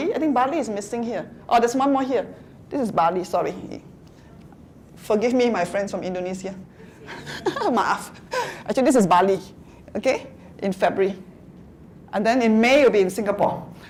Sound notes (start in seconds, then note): 7.0 laughter